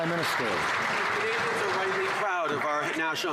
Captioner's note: some Applause